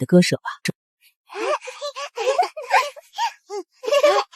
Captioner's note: laughter